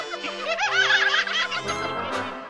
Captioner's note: laughing; onion laughs